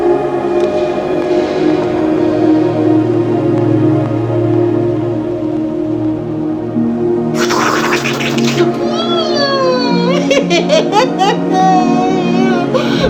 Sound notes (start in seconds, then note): 7.3 slurping Sound